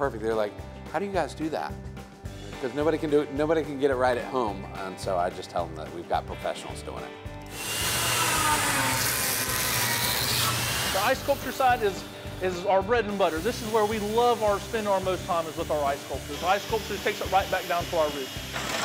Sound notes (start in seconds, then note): 7.5 saw whirring